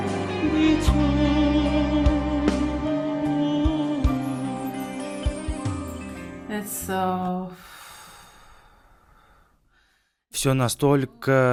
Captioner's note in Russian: вздыхает